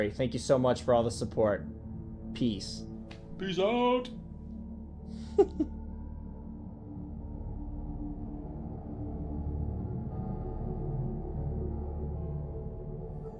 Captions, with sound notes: thank you so much for all the support. Peace. - Peace out. (laughing) (ominous music)